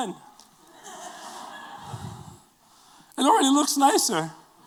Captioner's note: laughter